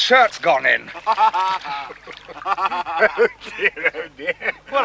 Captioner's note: laughing